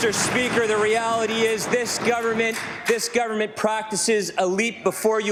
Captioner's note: applause